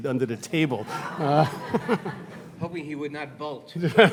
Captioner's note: audience laughing